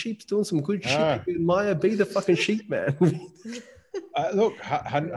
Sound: laughing

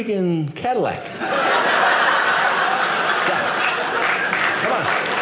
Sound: audience laughing

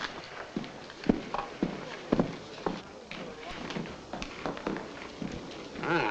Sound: men chattering nearby

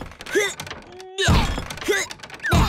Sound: crashing

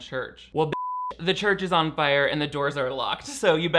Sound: beep

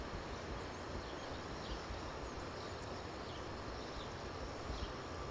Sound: birds chirping

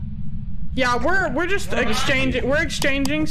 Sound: over radio

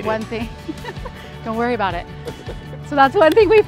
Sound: laughs

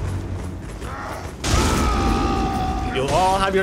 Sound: excited roar

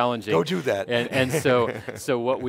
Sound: laughing

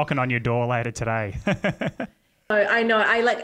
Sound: laughs

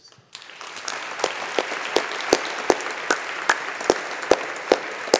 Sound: audience applauding

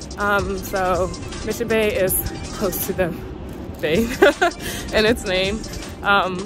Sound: laughs

